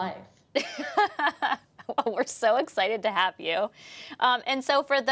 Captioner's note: laughs